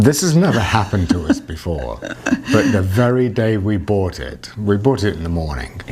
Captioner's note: laughing